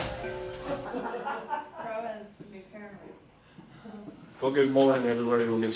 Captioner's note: people chattering